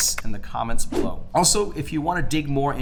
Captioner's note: wind whooshing